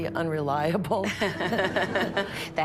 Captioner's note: laughter